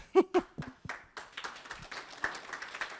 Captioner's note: applause